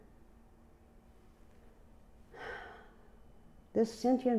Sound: sighs

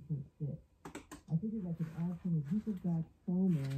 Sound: audio from speaker

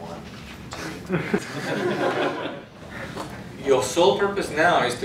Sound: laughing

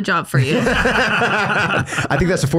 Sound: laughs

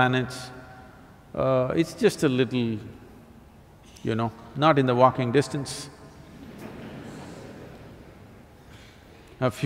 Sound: laughter

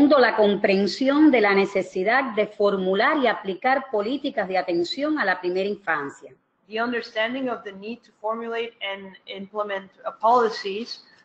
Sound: speaking another language

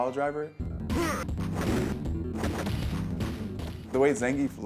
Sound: fighters noise

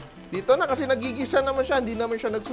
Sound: sizzle

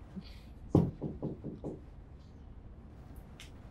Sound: knock

